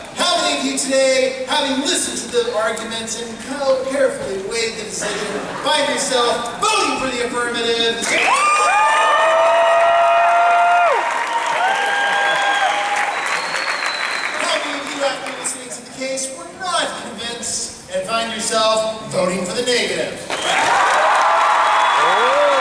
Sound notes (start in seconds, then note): 8.1 applause